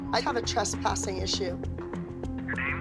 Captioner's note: on phone